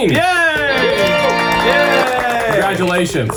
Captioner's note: everyone celebrating and clapping their hands